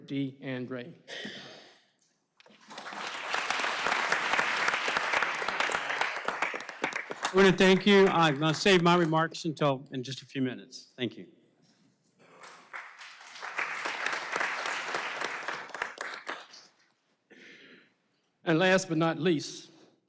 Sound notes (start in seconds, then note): 4.7 applause